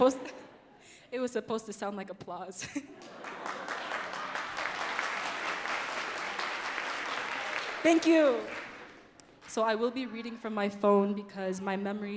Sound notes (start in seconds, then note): 3.0 audience claps